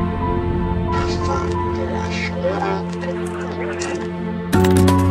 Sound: distorted Tape Playing

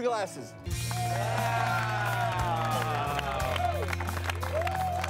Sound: crew cheering

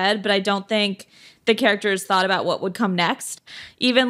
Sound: none

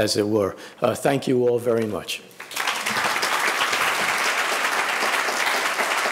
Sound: audience applauding

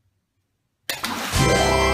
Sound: splash

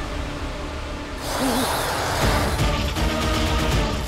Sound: whimpers

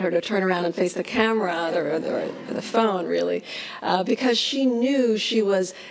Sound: laughs

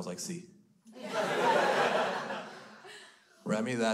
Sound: crowd laughs

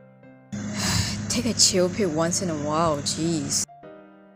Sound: sighs

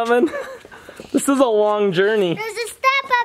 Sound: giggles

